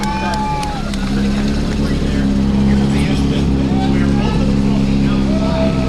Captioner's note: crowd cheering